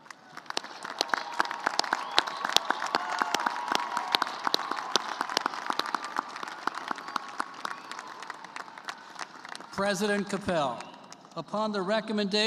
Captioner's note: cheers and applause